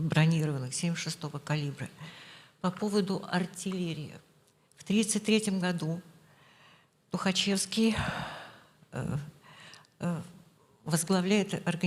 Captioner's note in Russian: вздыхает